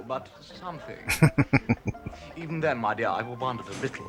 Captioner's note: chuckling